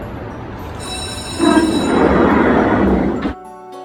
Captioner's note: bell rings and doors close